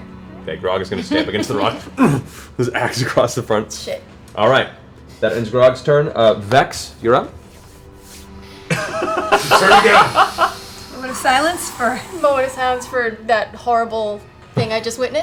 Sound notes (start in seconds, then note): 8.6 laughter